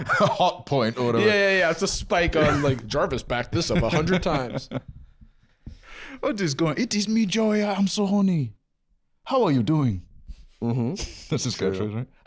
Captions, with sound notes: - "Hot point," or whatever. - Yeah, it's a spike, like, "Jarvis backed this up 100 times." (Nigerian accent) "What is going – it is me, Joey! I'm so horny!" "How are you doing?" - Mmhmm. - That's his catchphrase, right?